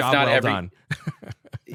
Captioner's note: laughs